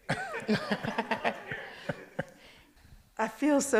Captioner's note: audience laughs